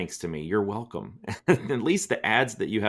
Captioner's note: laughs